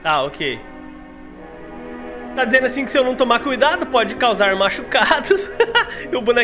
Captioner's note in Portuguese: risos